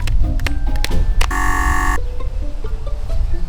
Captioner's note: buzzer